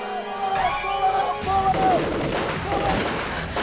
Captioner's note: rapid gun fire